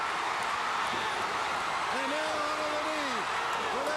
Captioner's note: crowd cheering